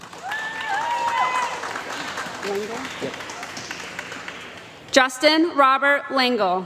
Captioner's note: applause